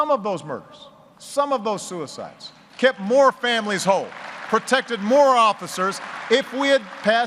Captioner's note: applause